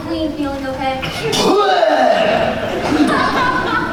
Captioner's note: cough